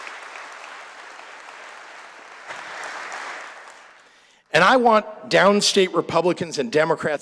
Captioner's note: applause